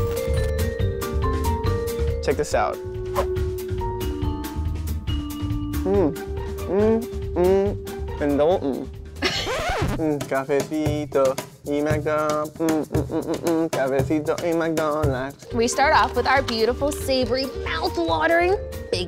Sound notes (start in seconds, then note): 9.2 laughing; 9.3 record scratches; 10.7 singing